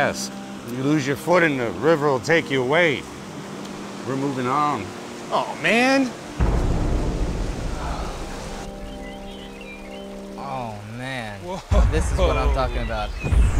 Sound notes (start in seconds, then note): 7.6 sighs